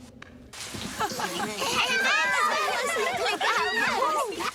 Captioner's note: kids chatter